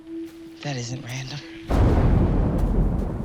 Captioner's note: booming